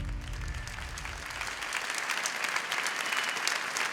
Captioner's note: applause